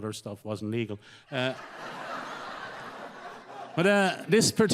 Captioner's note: audience laughs